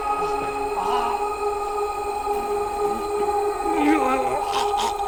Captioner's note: Danny gargling